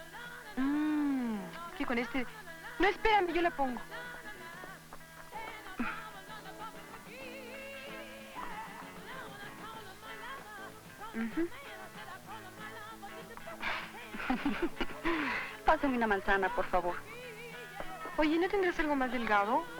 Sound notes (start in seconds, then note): 13.2 laughs